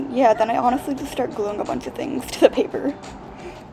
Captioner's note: laughing